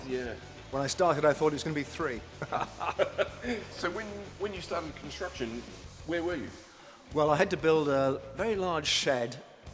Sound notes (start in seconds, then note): 2.4 laughing